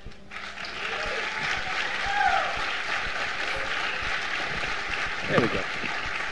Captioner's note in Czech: potlesk